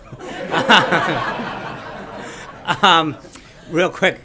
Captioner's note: laughter